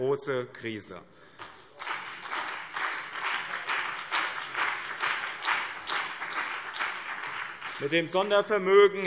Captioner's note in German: Beifall BÜNDNIS 90/DIE GRÜNEN und CDU